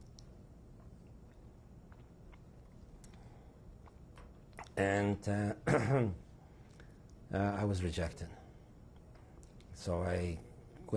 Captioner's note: drinks